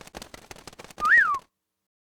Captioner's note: whistle